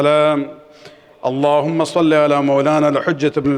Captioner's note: arabic; arabic